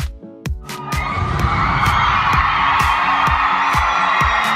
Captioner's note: audience cheering